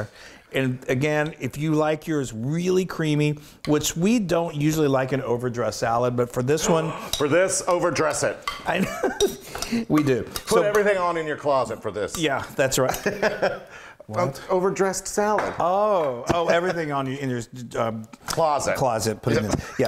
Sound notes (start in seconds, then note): 8.9 laugh; 12.9 laugh; 19.3 laugh